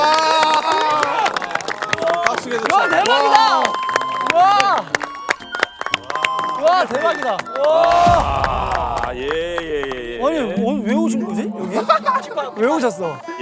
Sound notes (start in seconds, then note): 2.6 endless applaud